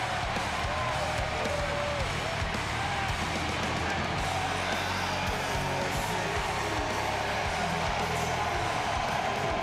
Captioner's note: applause